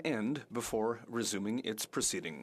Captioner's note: speaking French